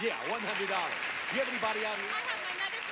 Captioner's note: audience applauding